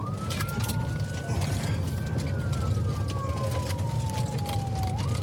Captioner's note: siren wailing